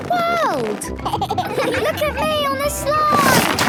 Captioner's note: giggles